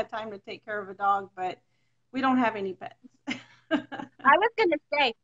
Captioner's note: laughs